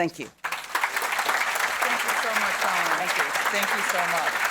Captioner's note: audience applauding